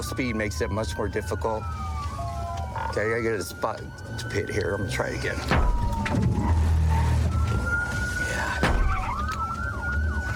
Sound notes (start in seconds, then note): 5.4 thuds